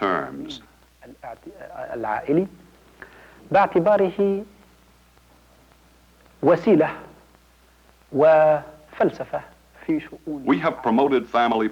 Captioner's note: speaking Arabic